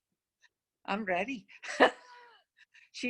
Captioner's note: laughs